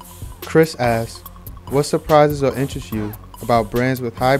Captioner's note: voiceover